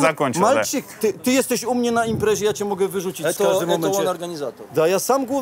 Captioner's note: side cap speaks in Polish